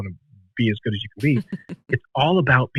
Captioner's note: laughs